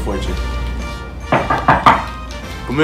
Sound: knocking on door

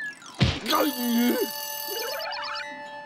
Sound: bell ringing

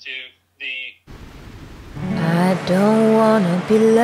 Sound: static buzzes

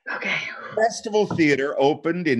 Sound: sighing

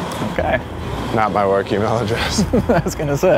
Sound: laughs; chuckles

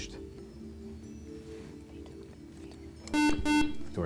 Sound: whispering

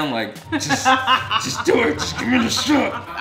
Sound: laughing

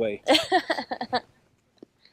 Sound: laughs

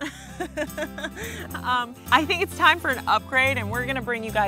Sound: laughing

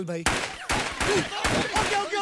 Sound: gun shots

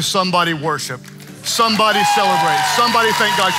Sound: congregation cheering

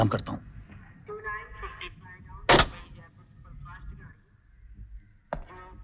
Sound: railway announcement

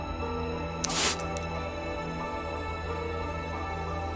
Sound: spraying mist

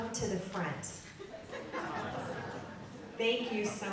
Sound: audience laughing

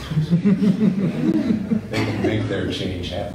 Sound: laughing

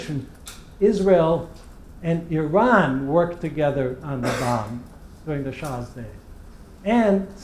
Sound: cough

